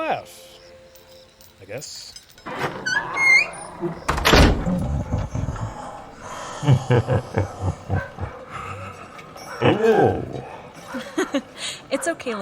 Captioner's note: laughing